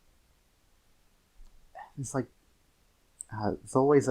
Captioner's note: sigh